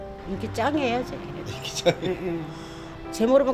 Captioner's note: laughs